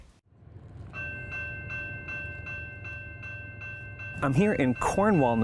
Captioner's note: railway bell ringing